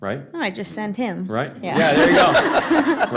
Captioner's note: laughter